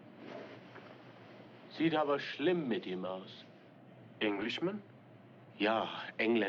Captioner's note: German